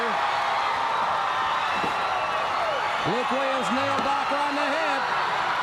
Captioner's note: crowd cheering